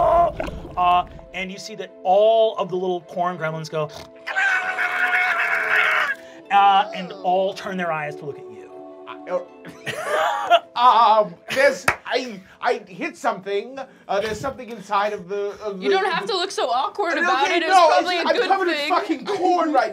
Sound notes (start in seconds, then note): 4.2 screeching